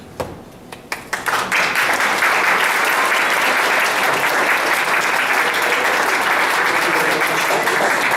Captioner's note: applause